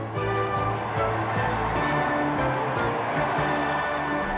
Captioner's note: crowd cheering